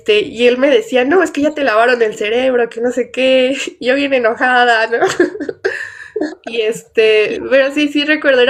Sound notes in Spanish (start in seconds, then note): 5.0 risas